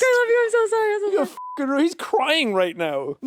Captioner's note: beeps